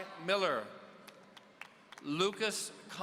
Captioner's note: audience applauding